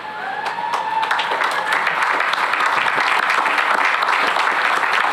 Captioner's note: cheering and applause